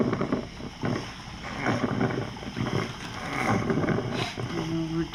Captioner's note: grunting Continues